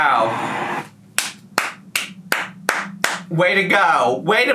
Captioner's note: clapping